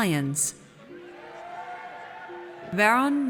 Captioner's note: audience cheers